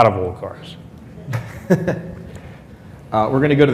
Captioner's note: laughs